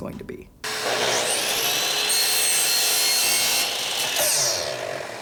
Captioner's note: chainsaw grinds